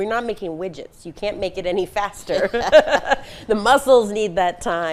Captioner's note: laughing